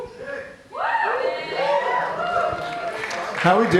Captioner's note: cheers